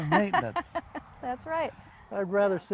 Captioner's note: laughing